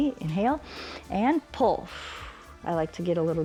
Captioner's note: exhales; inhales